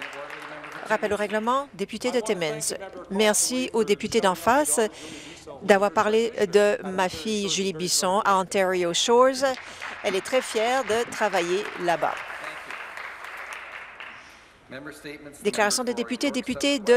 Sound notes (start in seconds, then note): 4.3 some applause